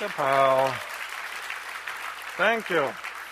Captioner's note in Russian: аплодисменты